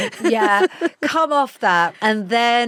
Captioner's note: laughs